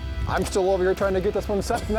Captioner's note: voiceover